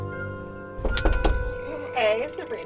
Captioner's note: suspenseful music; knocking on door